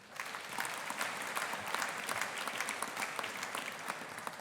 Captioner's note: audience applauding